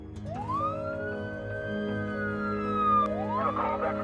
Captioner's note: siren blaring